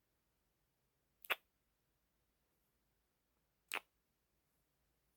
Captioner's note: kiss